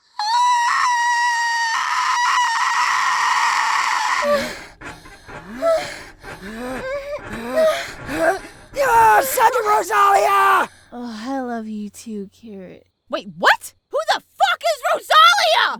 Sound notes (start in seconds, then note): 0.0 Kirito squeals like a Velociraptor; 4.1 The sound of Kirito and Asuna having sex